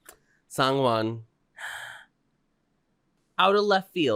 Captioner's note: gasp